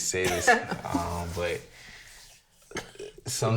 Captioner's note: woman laughing